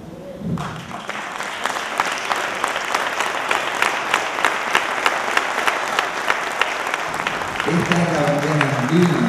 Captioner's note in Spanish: aplausos